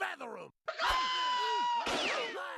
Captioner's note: screaming